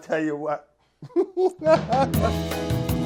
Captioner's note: laughs; cheery music